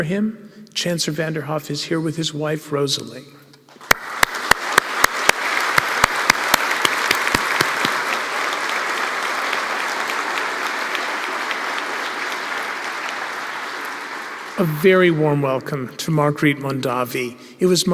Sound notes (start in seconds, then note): 3.8 applause